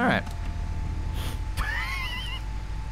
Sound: laughs

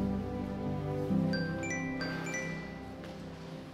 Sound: cell phone rings

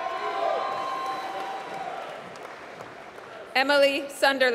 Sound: applause

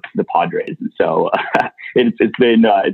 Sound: laughs

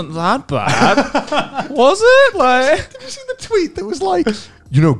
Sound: laughs

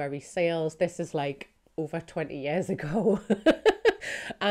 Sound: laughs

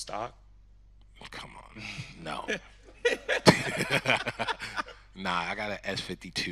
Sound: laughing

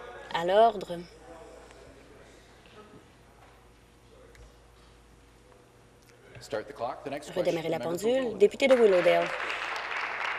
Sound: conversation din

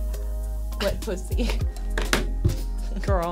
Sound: chuckling

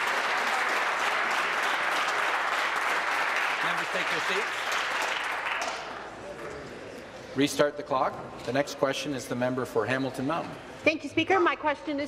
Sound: some Applause

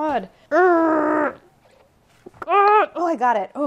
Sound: groaning

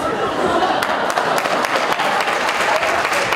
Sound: collective groan from students

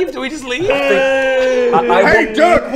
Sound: still wailing

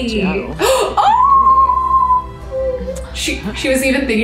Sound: Kelsey squeals

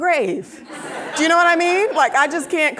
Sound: audience laughing

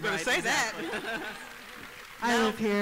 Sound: applause

